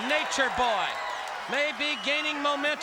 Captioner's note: crowd cheering